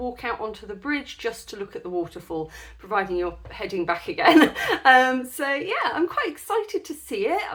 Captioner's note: laughing